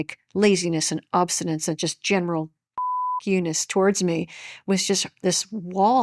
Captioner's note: beep